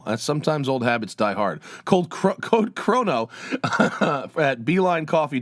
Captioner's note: laughter